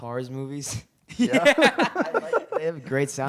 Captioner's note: laughter